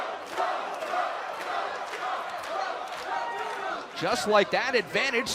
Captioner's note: crowd cheering